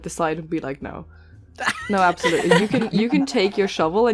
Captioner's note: laughter